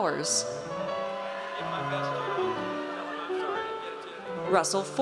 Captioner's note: audience cheers